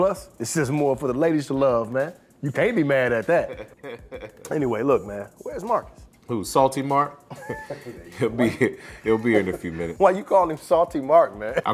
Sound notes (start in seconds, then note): 3.4 laughing